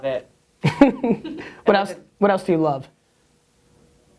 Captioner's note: laughs